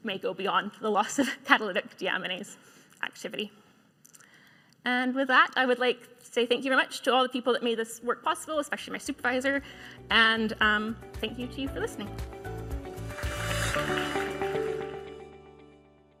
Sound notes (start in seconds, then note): 13.7 clapping